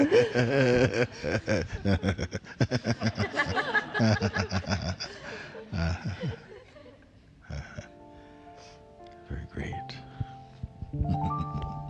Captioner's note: laughs